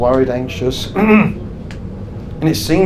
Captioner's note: clears throat